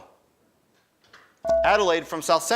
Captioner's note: buzzer dings